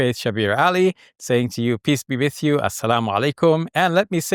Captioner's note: speaks in Arabic